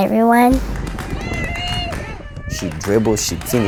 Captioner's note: fans cheering